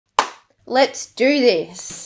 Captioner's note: claps hands